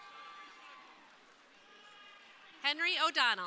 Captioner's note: crowd cheering